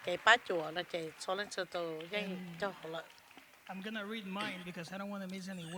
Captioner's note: applause